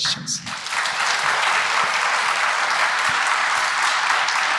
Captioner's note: applause